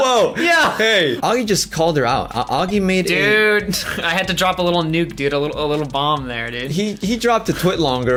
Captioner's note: laughs; laughs